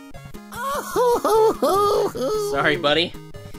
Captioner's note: crying